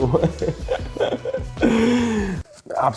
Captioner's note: laughs